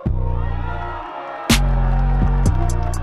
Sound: cheering

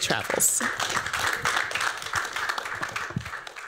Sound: applause

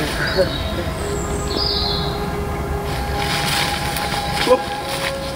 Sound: birds chirping

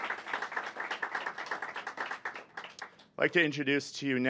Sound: applause

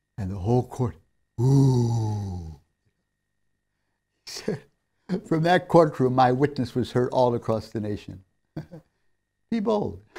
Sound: laughs

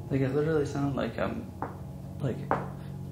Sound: tapping

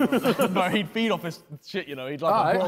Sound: men laughing

